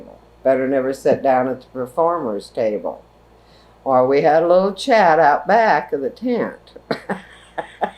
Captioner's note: laughs